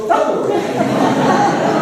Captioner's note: laughter